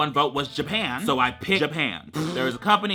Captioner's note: blows raspberry